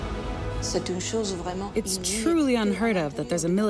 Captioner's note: speaking French